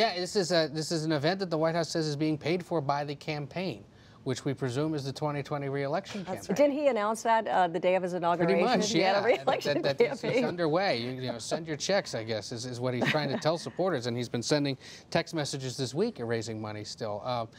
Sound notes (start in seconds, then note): 9.3 laughs